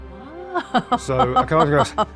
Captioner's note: laughs